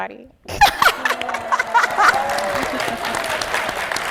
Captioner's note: laughing; audience cheering; audience applauding; laughing